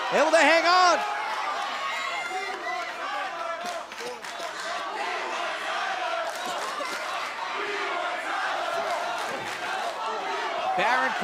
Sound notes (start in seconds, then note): 4.3 fans chanting